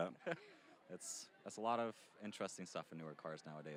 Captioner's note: chuckling